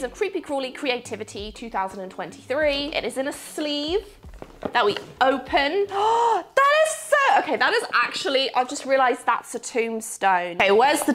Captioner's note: gasp